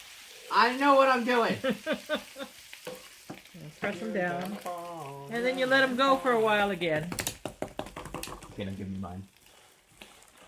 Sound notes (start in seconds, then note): 1.6 laughs